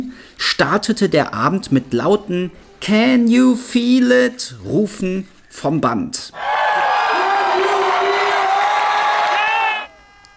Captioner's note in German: jubel